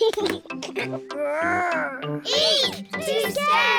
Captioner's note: giggles